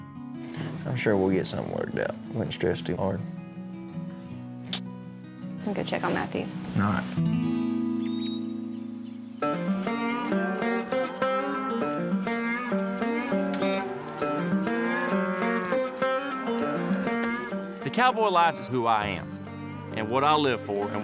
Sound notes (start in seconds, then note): 4.6 smooch; 15.5 cows moo